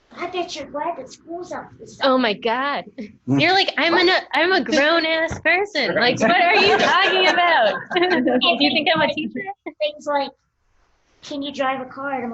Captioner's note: laughter